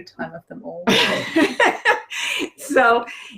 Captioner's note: laughter